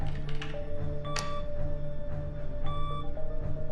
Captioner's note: machine whirring